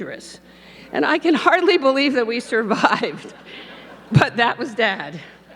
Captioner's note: laughs